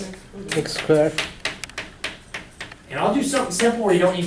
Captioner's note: voiceover